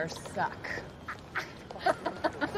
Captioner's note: laughs